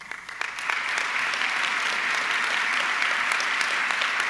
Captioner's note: audience clapping